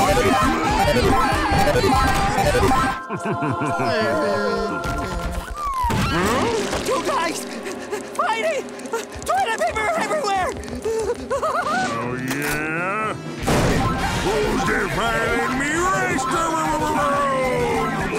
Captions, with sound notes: [chuckles] Hmm? Two guys... fighting... toilet paper everywhere! Oh, yeah? Who's defiling me rester-ereroom?!